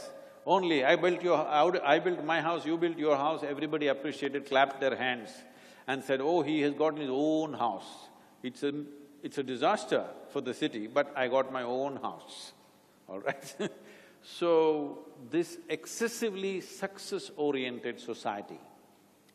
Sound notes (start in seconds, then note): 13.2 chuckles